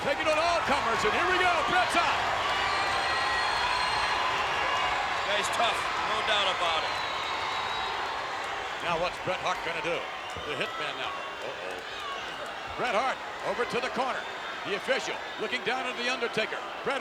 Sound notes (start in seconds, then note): 2.6 crowd cheers